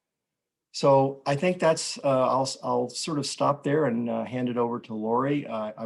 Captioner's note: none